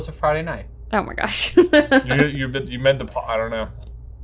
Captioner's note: laughing